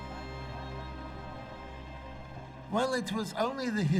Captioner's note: crowd murmuring